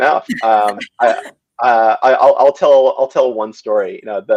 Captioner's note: all laughing